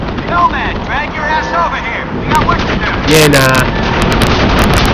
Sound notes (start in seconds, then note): 3.7 war noises intensify